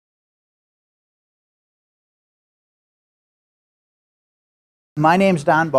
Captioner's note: silence